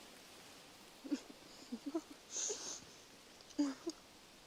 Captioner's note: both giggling